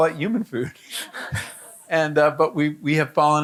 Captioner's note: audience laughing